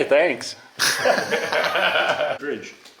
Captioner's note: laughing